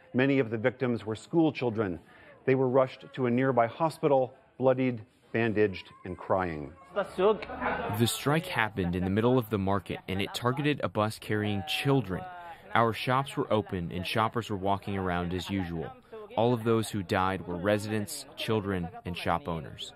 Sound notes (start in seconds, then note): 7.4 through translator